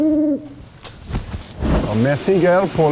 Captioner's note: owl hooting